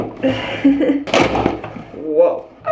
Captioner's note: chuckles